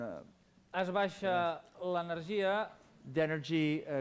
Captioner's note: non-english speech